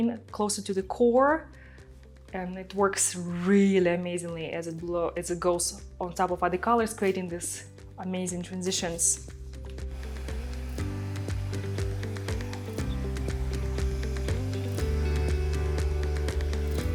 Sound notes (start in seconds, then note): 9.8 blow-dryer whirring; 9.9 upbeat music continues